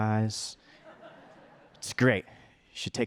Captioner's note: audience laughter